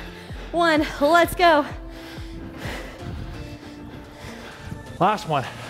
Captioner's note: breathes heavily